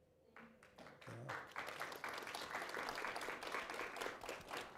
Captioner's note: applause